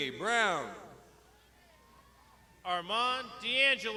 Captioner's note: crowd shouting